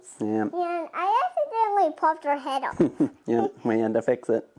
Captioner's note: laughing